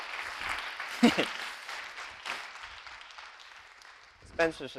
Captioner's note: audience clapping; laughs